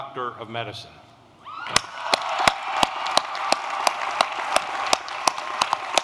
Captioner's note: applause